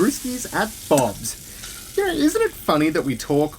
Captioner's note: A BBQ ignites and sizzles